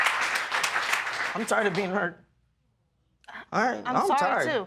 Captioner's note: voice breaking